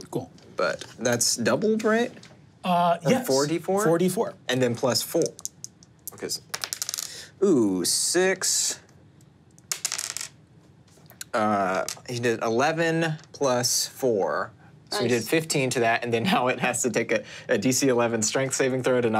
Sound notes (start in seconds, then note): 6.5 die tapping table